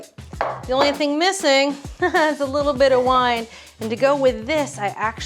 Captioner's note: chuckles